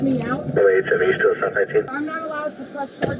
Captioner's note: radio chatter